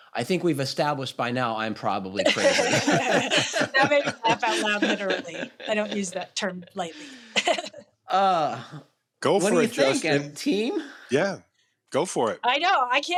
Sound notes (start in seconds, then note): 2.2 laughter; 6.9 laughs